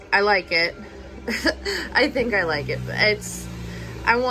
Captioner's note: laughs